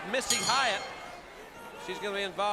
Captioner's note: bell ringing